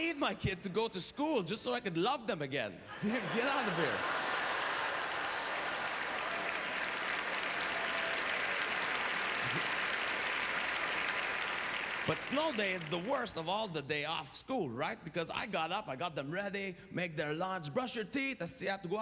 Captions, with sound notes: I need my kid to go to school just so I can love them again. Get out of here. (Applause) But snow day, it's the worst of all the day off school, right, because I got up. I got them ready, make their lunch, brush your teeth.